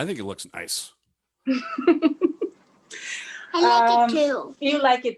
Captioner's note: chuckles